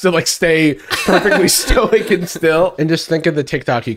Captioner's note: laughing